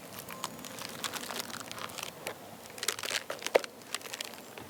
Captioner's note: airplane engine roaring